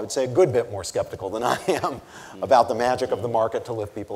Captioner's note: chuckles